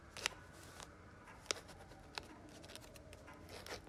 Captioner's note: scribbling; clock ticking